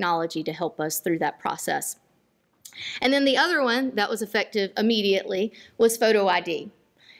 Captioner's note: none